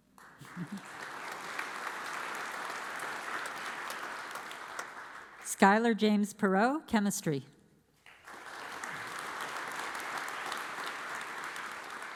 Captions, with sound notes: (audience applauds) Skyler James Perot, chemistry. (audience applauds)